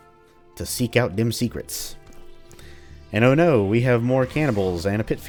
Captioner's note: sarcastically